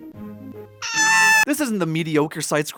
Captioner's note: shrieking